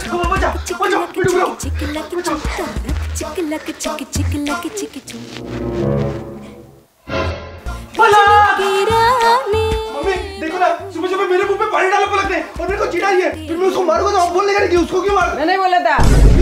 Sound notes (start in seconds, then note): 8.4 shouting